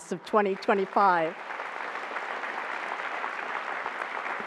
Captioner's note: applause